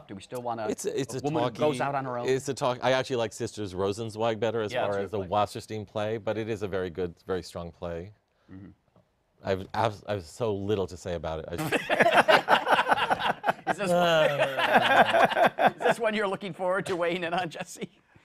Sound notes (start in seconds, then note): 11.6 laughter